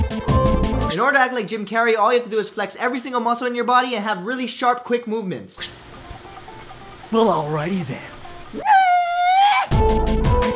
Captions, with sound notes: In order to act like Jim Carrey all you have to do is flex every single muscle in your body and have really sharp, quick movements Well alrighty then *shrieks*